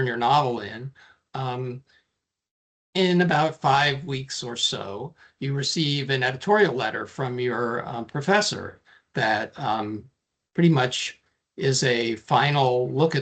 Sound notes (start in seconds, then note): none